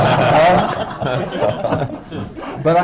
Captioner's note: laughter